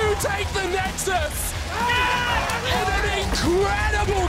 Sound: screaming

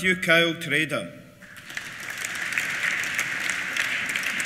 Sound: applause

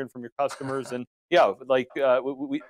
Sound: chuckles

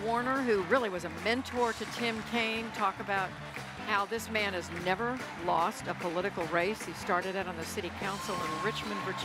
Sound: applause

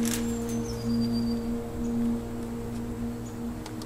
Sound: birds chirping

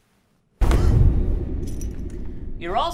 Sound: intense music; woman gasping

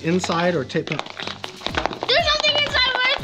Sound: pinata rattling

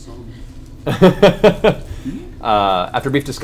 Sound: laughs

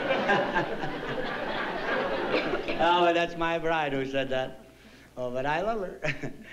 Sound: laughs

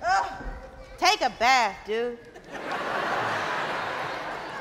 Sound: audience laughing

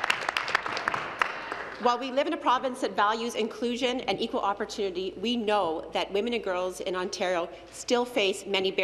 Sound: applause

